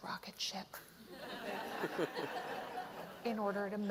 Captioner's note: laughter